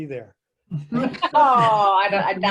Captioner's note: laughing